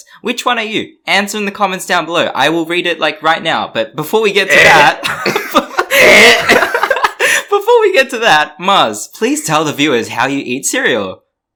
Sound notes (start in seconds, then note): 4.5 laughs; 5.8 louder throw up noises; 5.8 throw up noises